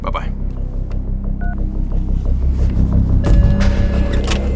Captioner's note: phone beeps